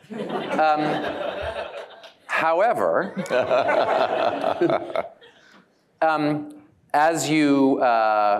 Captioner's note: laughter